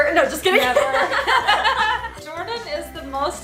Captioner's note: laughs